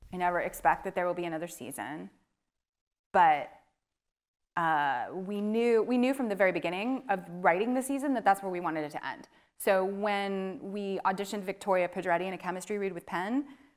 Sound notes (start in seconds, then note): none